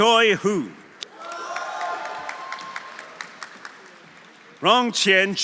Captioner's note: audience cheering; audience applauding